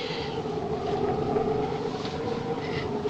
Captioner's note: wind howling